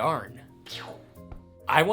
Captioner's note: psshew